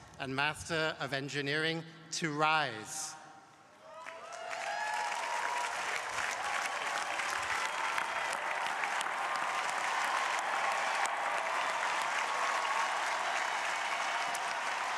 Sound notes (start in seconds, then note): 4.4 crowd applauding